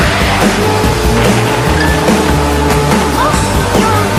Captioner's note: crash!